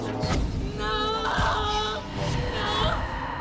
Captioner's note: crying